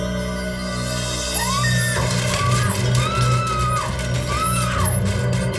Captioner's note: Madeleine screams